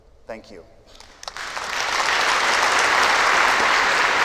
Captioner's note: applause